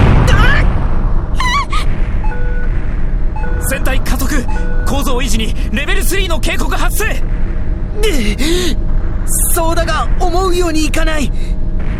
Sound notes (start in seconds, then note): 1.4 panicked cry